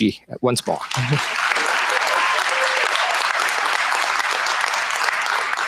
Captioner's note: applause